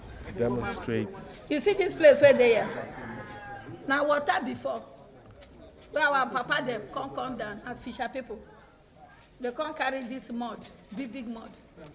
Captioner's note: non-english speech